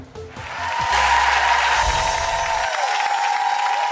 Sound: cheers and applause

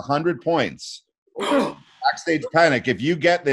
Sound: chuckling

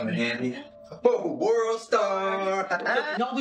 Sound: laughing; they laugh

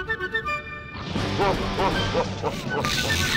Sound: evil laughing

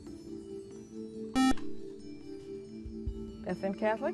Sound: buzzer

